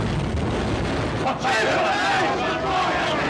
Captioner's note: angry cries from gang